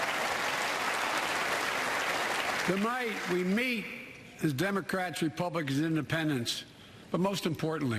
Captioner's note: applause